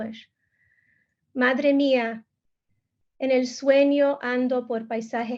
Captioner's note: speaking in Spanish